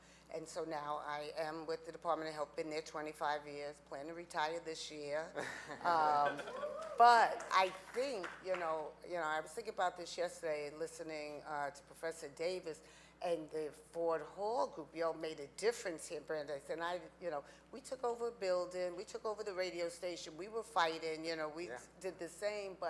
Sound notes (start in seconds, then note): 6.1 audience laughing